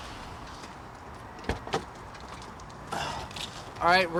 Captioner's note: car door rattles